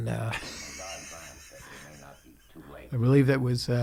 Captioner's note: laughing